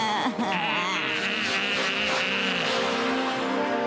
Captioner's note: cawing